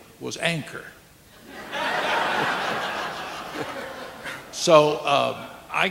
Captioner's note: audience laughing